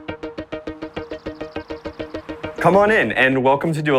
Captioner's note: birds chirping; lively music playing